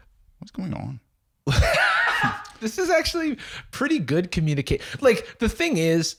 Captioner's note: laughs